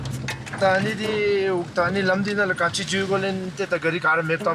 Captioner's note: dzongkha spoken audio